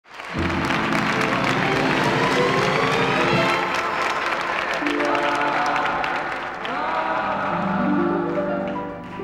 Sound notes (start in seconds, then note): 0.3 dramatic music; 0.9 audience applauding